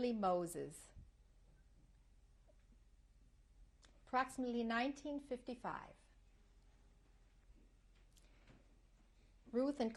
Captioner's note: pauses for 3 seconds